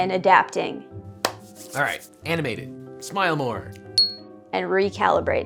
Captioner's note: clap; ting